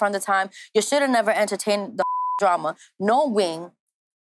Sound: beep

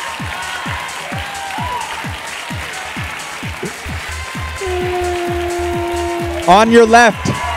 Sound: applause

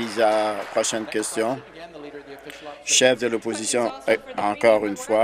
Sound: applause

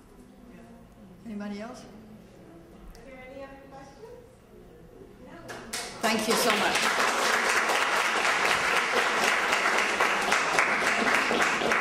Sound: continued applause

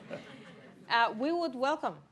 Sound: laughter

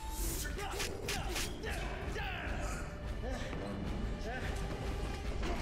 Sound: grunting

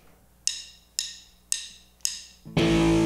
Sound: drum sticks clinking; groovy rock music

